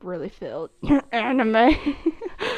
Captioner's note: cough; laughs